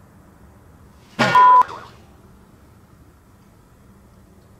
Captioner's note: whack